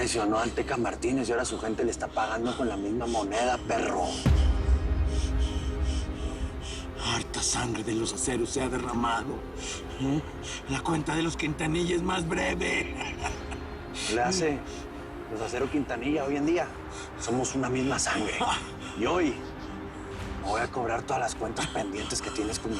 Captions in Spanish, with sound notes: USTED TRAICIONO A EL TECA MARTINEZ, Y AHORA SU GENTE LE ESTA PAGANDO CON LA MISMA MONEDA, PERRO. [Respiración agitada] - HARTA SANGRE DE LOS ACERO SE HA DERRAMADO, ¿JUM? LA CUENTA DE LOS QUINTANILLA ES MAS BREVE... [Risas] - NO LE HACE; LOS ACERO QUINTANILLA HOY EN DIA... SOMOS UNA MISMA SANGRE. Y HOY ME VOY A COBRAR TODAS LAS CUENTAS PENDIENTES